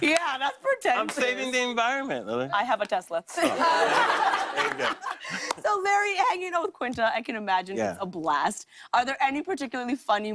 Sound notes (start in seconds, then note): 3.3 laughter